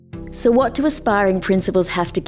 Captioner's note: voiceover